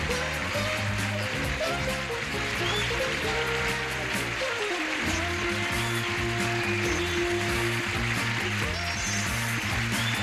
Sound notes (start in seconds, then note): 0.8 theme music; 3.5 audience applauds